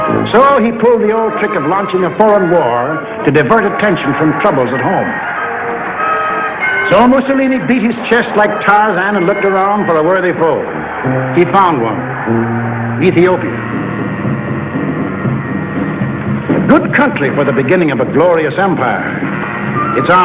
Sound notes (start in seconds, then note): 5.3 crowd cheering; 12.8 upbeat drumming